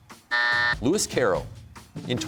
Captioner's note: buzzer sounds